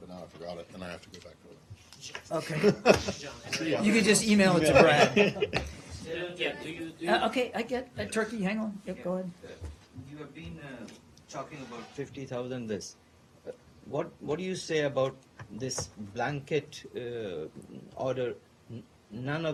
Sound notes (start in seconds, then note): 2.5 laughter; 4.7 laughter